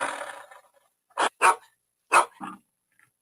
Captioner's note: dog bark; growl; dog bark; lion growl